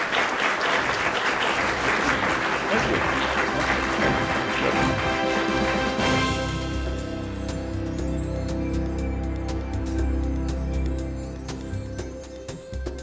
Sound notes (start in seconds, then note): 5.0 applause